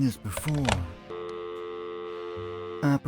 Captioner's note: dial tone